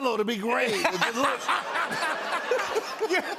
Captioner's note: laughter